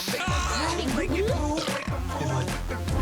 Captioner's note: belch